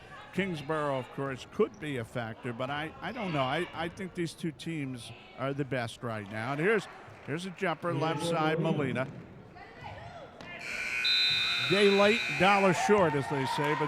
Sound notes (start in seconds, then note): 10.6 buzzer sounding; 10.6 referee whistling